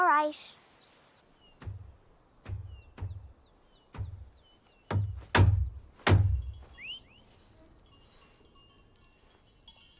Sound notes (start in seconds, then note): 1.6 thumping; 7.0 bell ringing